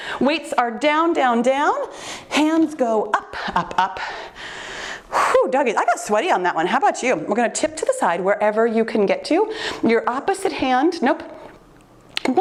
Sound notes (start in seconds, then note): 5.2 puffing